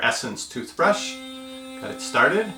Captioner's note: muted toothbrush motor buzzing